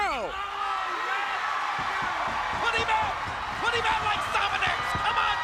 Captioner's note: audience cheering and shouting